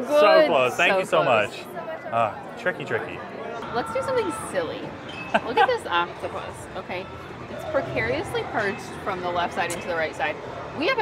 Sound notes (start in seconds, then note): 5.2 laughs